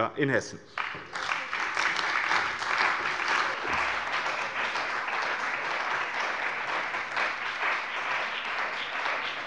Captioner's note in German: Beifall bei dem BÜNDNIS 90/DIE GRÜNEN und der CDU